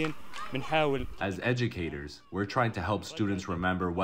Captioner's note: through translator